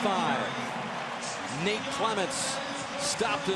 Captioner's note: pa announcement